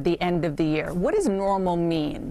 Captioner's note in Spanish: HABLAN EN INGLéS